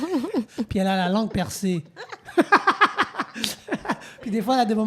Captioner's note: laughs